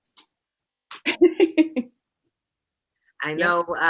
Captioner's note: laughter